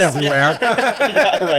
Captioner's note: laughing